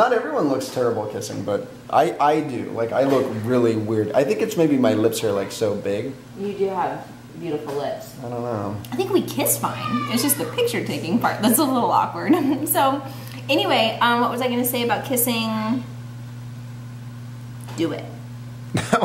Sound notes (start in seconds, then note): 12.2 giggles; 18.8 laughs